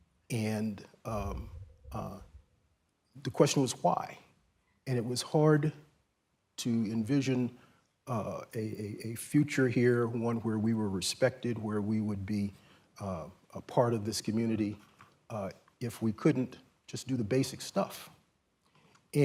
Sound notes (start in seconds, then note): none